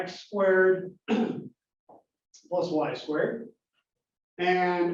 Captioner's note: cough